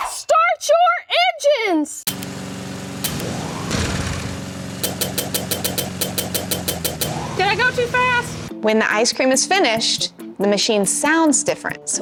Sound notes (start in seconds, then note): 2.0 ice cream makers whirring; 4.8 button clicking quickly